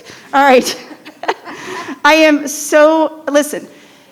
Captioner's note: chuckles